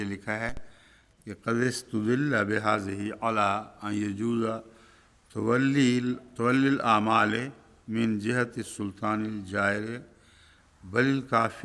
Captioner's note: Arabic